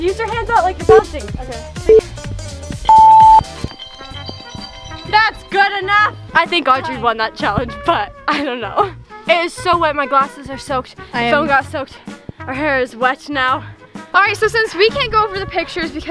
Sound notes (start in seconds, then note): 2.8 beep